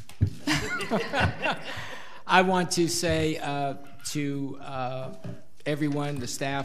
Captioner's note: all laughing